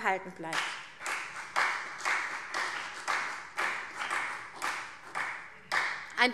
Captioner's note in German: Beifall CDU und BÜNDNIS 90/DIE GRÜNEN